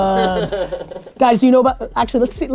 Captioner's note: laughs